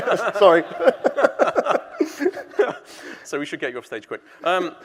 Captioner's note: both laughing; all laughing